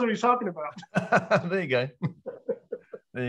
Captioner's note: all laugh